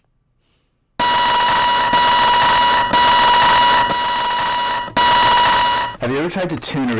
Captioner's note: radio feedback